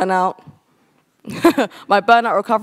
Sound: chuckles

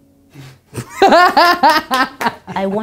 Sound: laughs

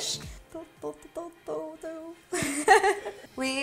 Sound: laughs

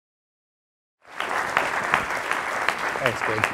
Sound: audience applauding

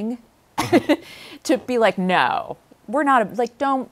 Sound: laughs

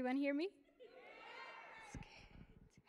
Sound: audience shouting

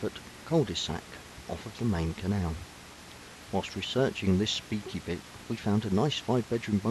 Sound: voiceover

